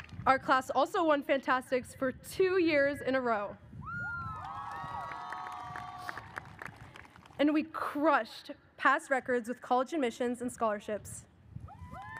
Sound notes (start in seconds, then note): 4.4 audience cheers